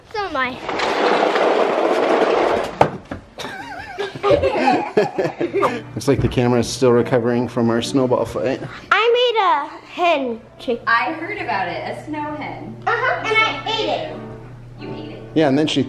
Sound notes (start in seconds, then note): 0.5 sled scraping on pavement; 3.4 everyone laughing